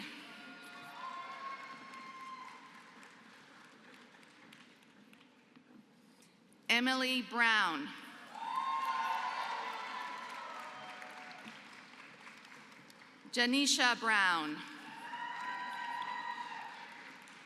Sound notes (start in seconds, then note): 0.0 applause; 8.3 applause; 14.6 applause